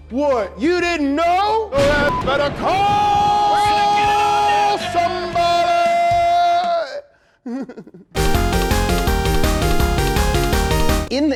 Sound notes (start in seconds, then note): 1.6 thunder clapping; 2.8 beep; 7.3 laughs; 8.1 eight bit music